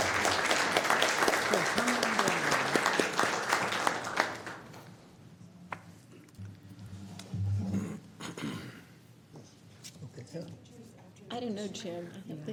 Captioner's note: applause